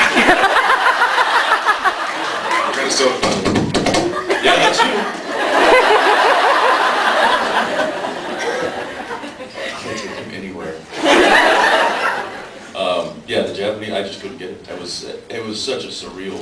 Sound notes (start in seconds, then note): 0.0 laughs; 3.6 crackling noises; 4.1 laughs; 11.0 laughs